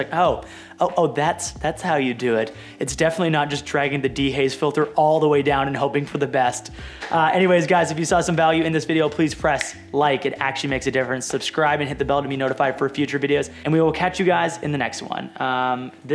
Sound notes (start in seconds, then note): 9.5 clicks fingers